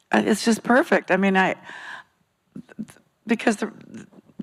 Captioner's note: stammers